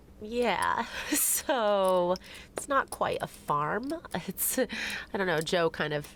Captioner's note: chuckling